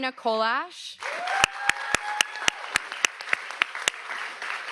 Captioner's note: audience applauds